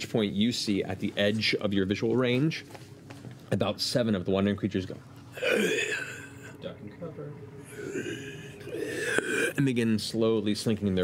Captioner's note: raspy groan